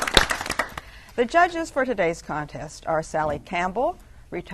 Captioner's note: applause